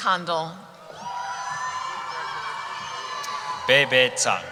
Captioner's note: cheering